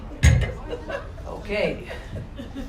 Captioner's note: microphone thuds